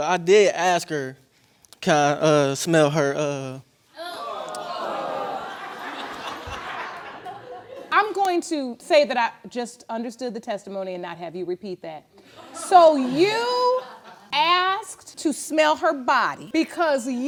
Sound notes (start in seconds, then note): 4.0 audience gasps; 6.0 audience laughs